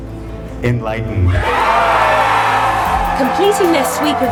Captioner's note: crowd cheering